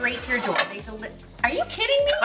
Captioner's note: pans clanging